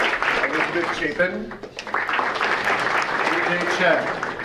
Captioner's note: audience applauding